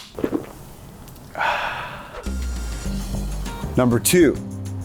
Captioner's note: satisfied sigh